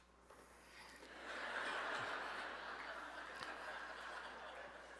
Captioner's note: audience laughs